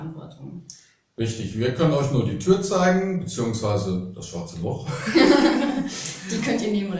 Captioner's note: laughing